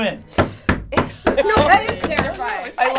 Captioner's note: slams table